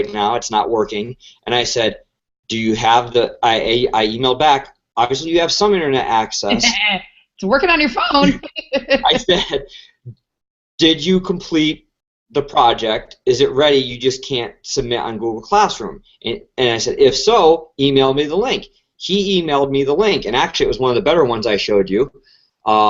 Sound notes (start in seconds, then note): 8.2 laugh